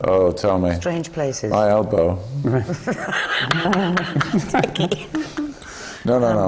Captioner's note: laughs